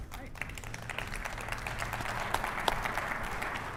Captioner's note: applause